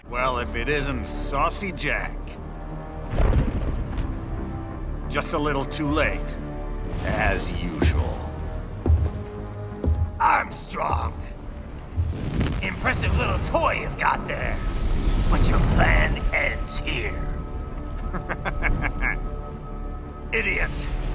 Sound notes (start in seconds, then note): 2.7 tense dramatic music; 3.0 thunder crashing; 17.8 laughs